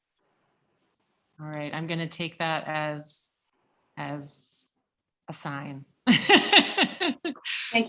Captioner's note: laughs